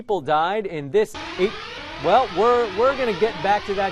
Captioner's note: alarm blaring